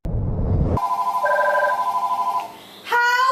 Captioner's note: phone ringing